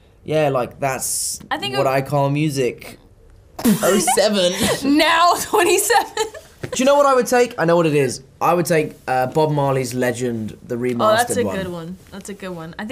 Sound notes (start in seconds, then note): 3.0 scoffs